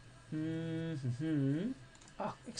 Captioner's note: humming